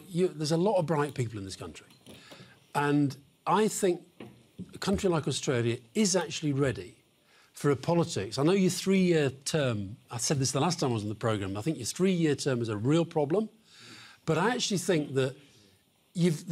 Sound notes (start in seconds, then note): none